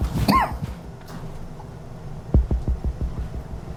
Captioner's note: Miles coughs